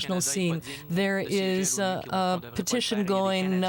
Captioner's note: speaking French